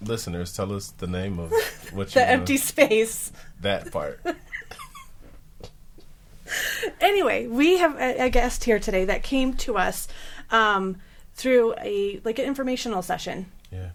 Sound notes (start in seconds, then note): 4.2 laughing